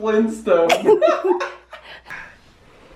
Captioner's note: laughter